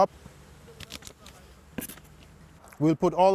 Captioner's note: garlic crunching